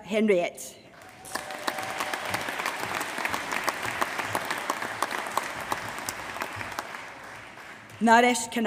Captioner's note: applause